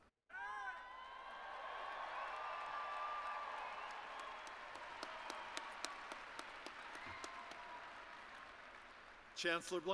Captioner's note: applause